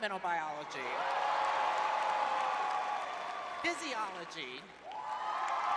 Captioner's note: cheering